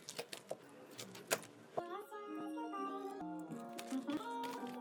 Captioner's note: laughing